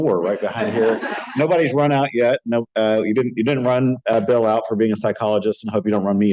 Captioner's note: laughter